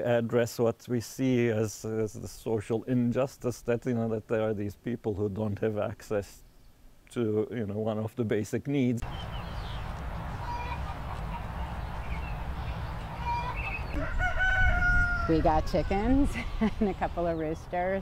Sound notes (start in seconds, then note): 13.1 rooster crowing